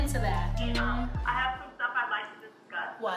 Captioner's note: people talking on virtual meeting